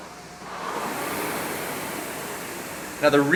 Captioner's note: rowing machine whirring